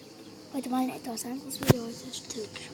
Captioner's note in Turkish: Almanca bir şeyler